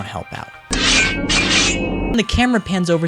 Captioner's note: knife sound effects